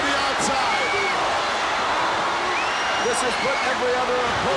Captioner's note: audience cheers